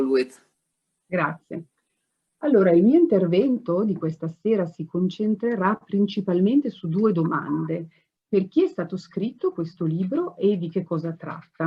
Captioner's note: speaking in Italian. English translation and subtitles to follow